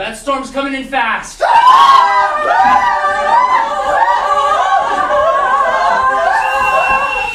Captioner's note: sailors panicking; bosun's whistle